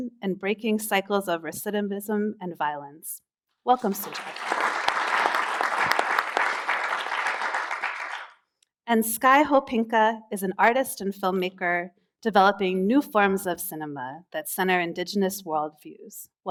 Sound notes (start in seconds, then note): 6.8 applause